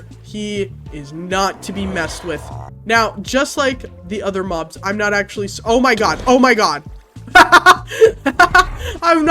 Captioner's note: laughs